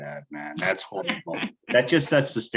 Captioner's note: chuckling